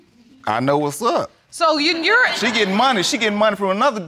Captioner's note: audience laughing